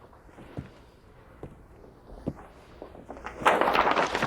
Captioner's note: footsteps; rustling